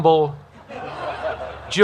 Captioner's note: laughter